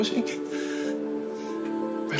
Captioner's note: breathes deeply